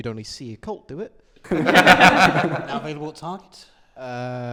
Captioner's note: laughter